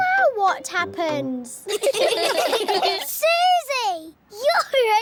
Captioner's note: all giggling